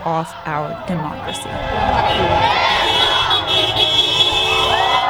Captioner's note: protest chants